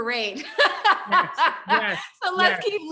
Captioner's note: laughs